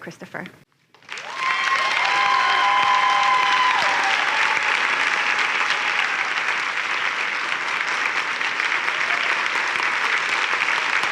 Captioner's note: cheering and applause